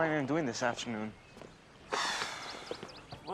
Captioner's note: sighs